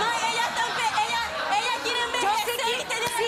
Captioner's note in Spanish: gritos y exclamaciones